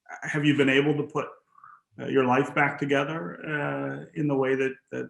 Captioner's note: laughs